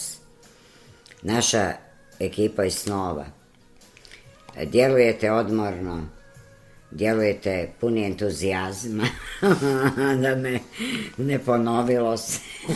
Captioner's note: laughter